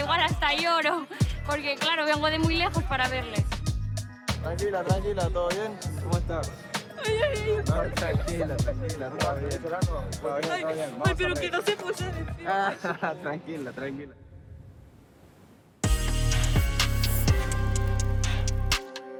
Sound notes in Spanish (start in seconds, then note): 6.6 solloza; 11.0 solloza